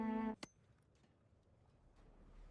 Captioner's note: silence